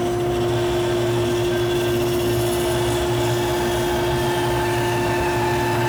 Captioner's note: sawing through wood